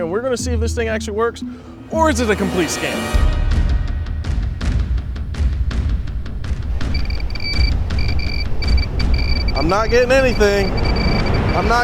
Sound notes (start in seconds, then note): 3.4 tense music; 6.8 jammer beeping